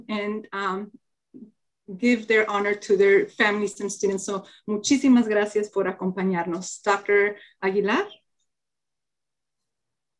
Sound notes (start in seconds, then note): 4.5 speaking in foreign language